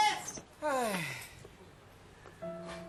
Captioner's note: Isko sighs